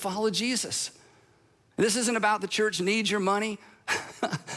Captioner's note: laughs